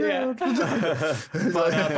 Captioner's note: laughing